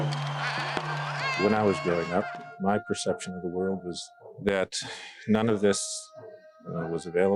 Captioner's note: applause